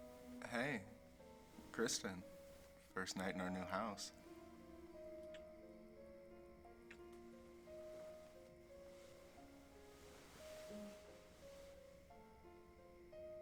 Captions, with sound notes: - Hey, Kristin. First night in our new house. (kisses smacking) (soft piano music)